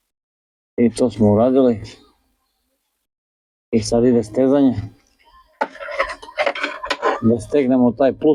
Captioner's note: laughs